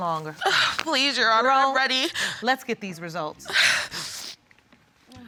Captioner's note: sobs